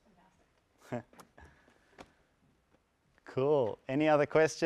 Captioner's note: laugh